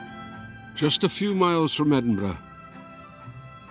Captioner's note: Voz en off